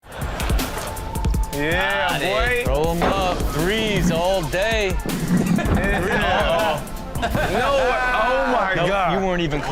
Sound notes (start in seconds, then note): 0.5 audience laughing; 5.9 men laughing